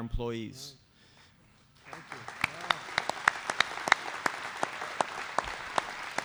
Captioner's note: applause